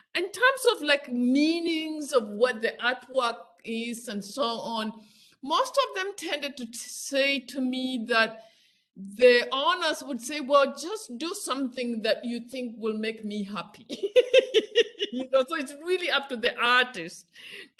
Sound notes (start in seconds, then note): 13.9 laughs